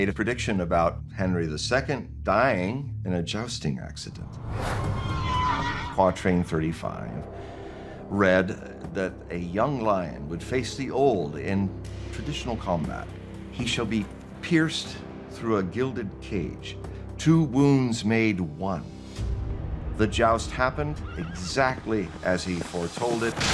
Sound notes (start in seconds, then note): 4.7 neighing